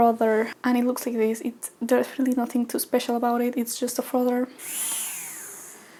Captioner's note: frother buzz